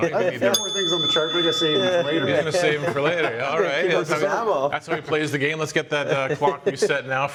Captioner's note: rings the bell anyway